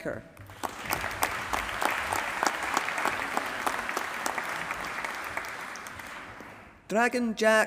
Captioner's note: applause